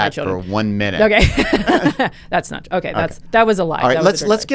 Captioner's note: laughs